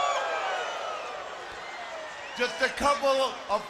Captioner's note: crowd cheering